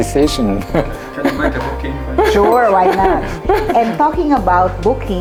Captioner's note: laugh